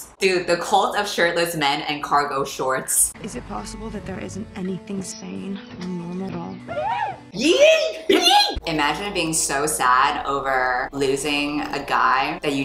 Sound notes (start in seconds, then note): 6.6 both yipping; 6.6 yipping